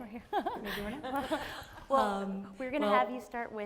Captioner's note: laughs